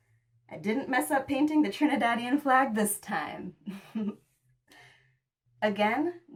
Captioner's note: giggles